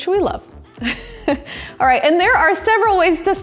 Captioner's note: chuckles